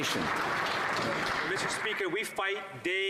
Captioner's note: some Applause